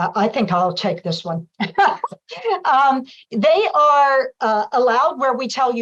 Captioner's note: laughter